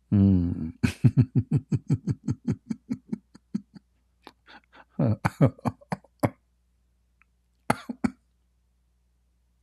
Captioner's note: Ketawa